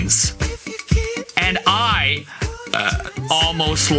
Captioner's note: burps